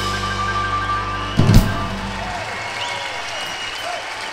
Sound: audience applauding

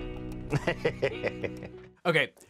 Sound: laughs

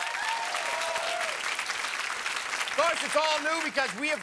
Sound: cheers and applause

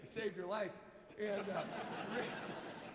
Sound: laughs

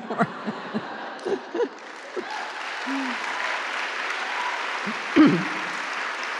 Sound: applause

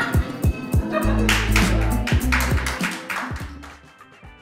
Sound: applause; upbeat music changes

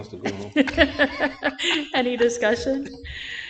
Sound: laughing

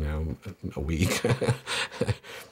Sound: laughs

